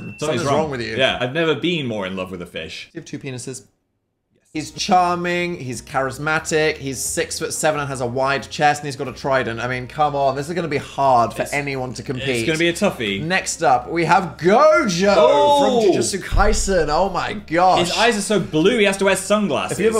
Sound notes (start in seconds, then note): 4.3 whispers